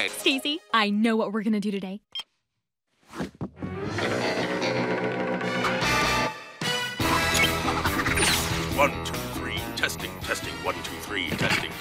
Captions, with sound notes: STACY, I KNOW WHAT WE'RE GOING TO DO TODAY. [BEEPS] 1, 2, 3, TESTING, TESTING, 1, 2, 3. TESTING.